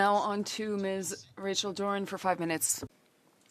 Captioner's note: speaking French